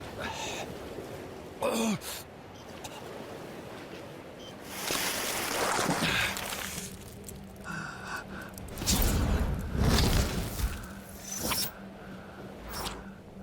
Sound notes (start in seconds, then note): 0.0 labored grunts and disoriented huffing; 4.5 splashing of water; 4.7 labored grunts and disoriented huffing